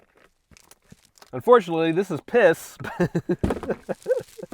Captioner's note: giggles